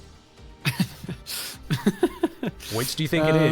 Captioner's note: laughs